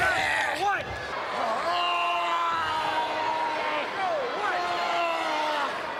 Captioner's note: wrestlers grunting